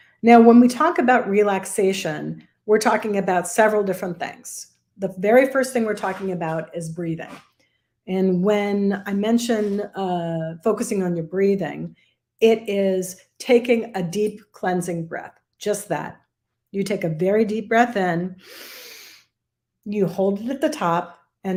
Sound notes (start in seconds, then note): 18.4 inhales sharply